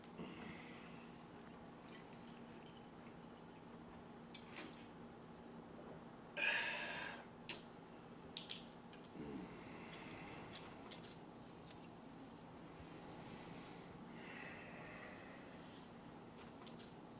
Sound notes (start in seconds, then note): 6.4 Dave sighs